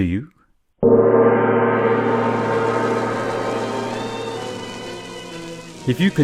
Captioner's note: gong